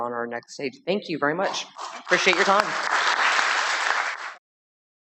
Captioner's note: applause